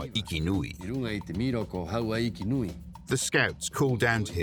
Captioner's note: speaking Rapanui